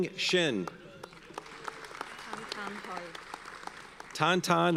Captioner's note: audience applauds